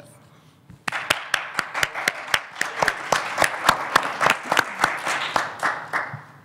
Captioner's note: audience clapping